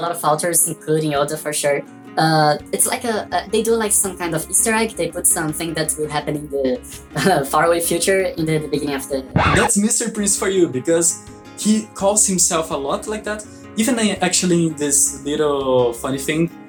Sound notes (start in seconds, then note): 9.3 disc scratch